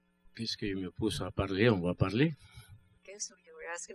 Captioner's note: speaking french